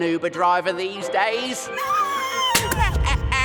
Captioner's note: Fungo laughs; Madison screams, crossbow fires